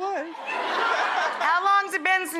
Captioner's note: laughing